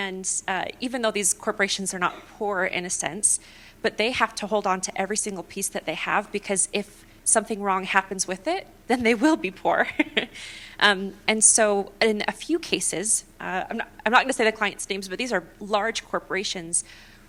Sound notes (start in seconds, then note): 9.8 laughter